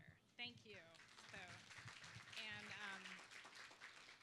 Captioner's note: applause